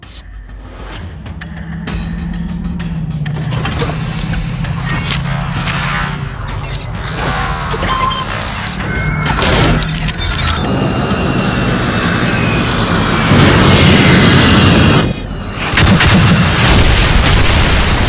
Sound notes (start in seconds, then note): 0.1 robotic sounds; 10.9 drone sounds; 17.2 explosion